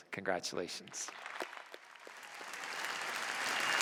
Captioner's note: applause